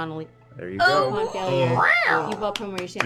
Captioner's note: meowing